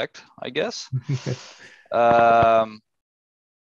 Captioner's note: chuckles